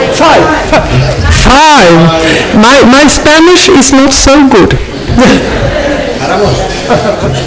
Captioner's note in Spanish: Risas